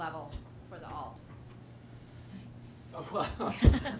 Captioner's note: laughter